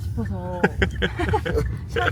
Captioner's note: chuckles